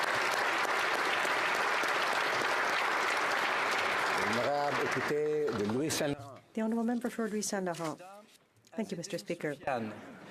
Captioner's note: applause